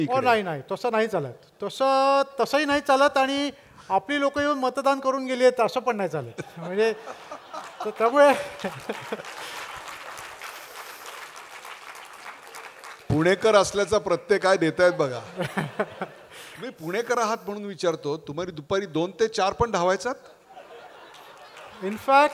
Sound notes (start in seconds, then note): 6.4 laughter and applause; 15.1 laughs; 20.4 laughter